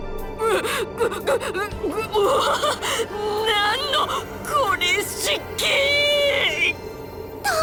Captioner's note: suffering groans